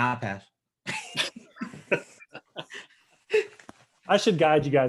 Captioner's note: all laughing